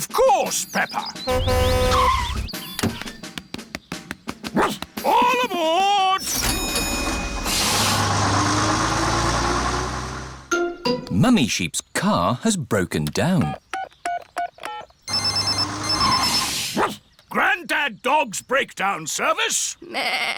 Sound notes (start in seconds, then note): 1.2 honks and brakes; 4.5 barks; 6.2 rings bell; 15.0 phone ringing; 15.0 beeping; 17.2 barks